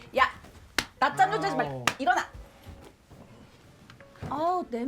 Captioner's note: slapping sound